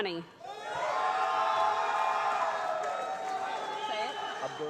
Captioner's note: loud cheering